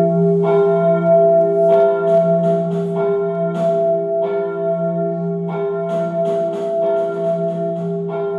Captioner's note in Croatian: Crikveni zvoni i pucanje pukšov